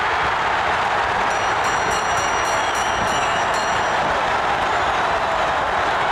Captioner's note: audience cheering; bell ringing